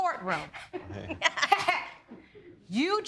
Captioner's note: laughs